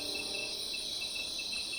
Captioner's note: crickets